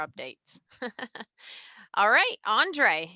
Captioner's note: laughs